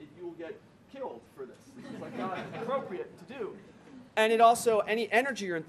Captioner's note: laughter